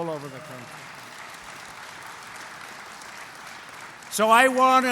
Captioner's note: applause